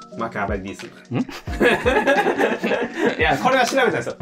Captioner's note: laughing